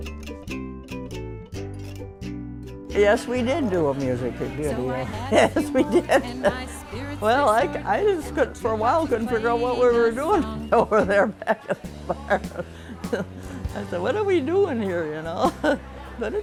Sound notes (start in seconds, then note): 11.6 laughs